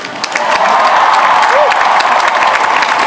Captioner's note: applause